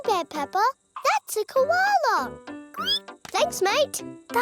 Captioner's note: squeals